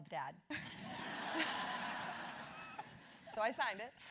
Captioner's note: laugh